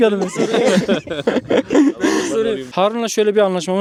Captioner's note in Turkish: Gülüşmeler